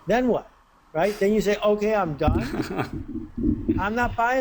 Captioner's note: laughter